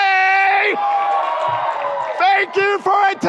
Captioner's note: audience cheers